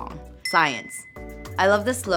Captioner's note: ding